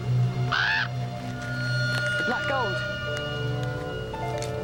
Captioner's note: raven caws